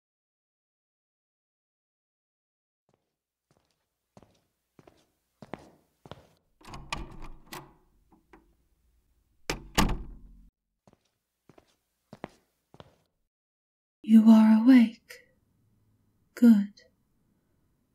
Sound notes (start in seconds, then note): 13.9 A tinny, automated feminine voice speaks quietly